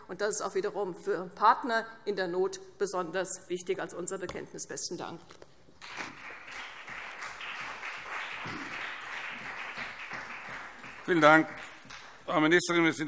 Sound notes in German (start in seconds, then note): 5.8 Beifall CDU und BÜNDNIS 90/DIE GRÜNEN